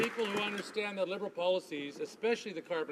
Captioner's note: some Applause